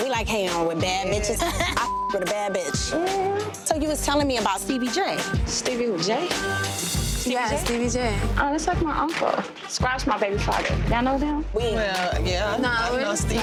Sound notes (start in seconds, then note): 1.2 laughs; 1.7 beep; 12.4 overlapping chattering